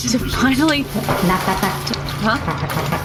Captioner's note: tapping on shower curtain